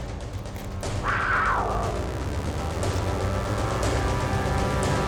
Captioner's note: dramatic music; big cat growls